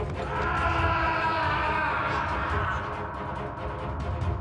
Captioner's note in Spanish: Gritos